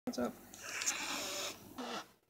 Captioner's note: hisssss